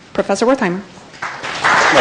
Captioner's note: applause